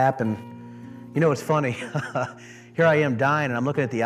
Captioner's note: laughs